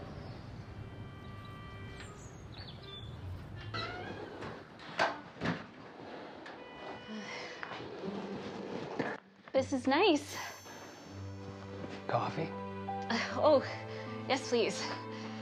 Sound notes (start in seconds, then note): 0.0 birds chirping; 5.5 door closing